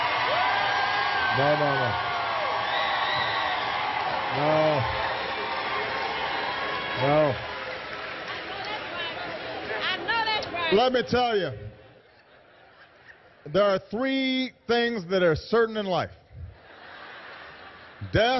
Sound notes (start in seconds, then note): 4.1 applause